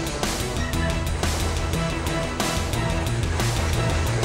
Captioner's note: engine sputtering